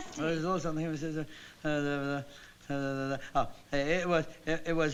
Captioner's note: mumbling